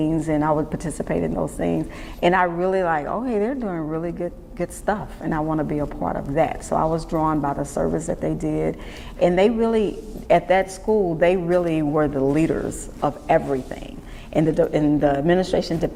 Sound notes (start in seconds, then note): none